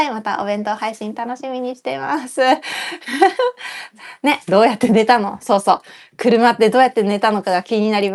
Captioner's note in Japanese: 息をのむ音